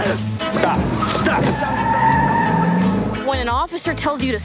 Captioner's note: tires squealing